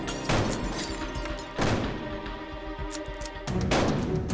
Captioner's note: gunfire continues; gun cocks